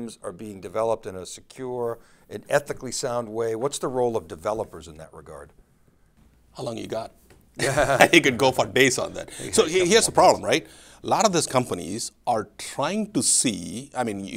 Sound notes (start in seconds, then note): 7.6 both laughing